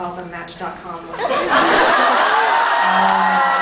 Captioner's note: laughs